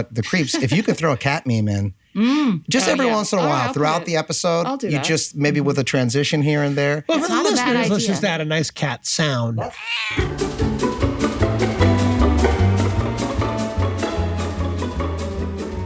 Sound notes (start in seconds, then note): 9.6 cat meowing; 10.2 jaunty music